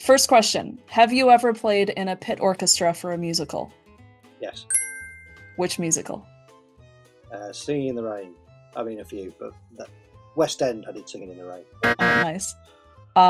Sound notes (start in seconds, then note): 4.7 ding; 11.8 loud incorrect buzzer